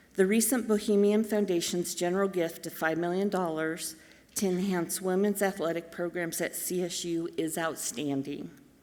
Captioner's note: none